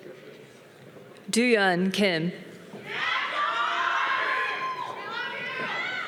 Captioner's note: audience cheering